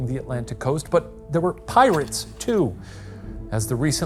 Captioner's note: projector clicking